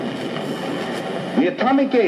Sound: static crackles

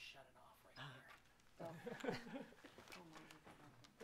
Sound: laughing

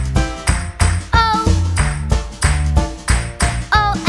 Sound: clap

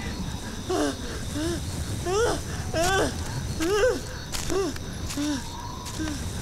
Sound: panting

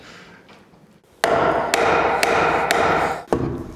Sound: hammer bangs

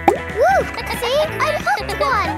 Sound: kids laughing

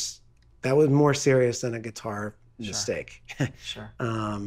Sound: laughing

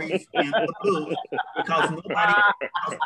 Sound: laughter

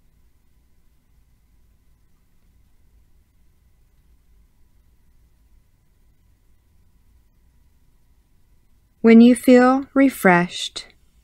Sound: silence

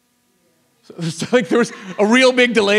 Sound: audience laughs

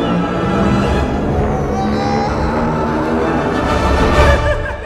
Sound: screams of agony; Impish, Joker-like laugh

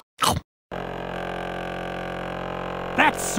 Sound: buzzing

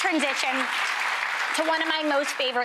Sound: audience applauding

